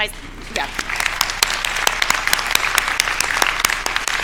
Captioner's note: audience claps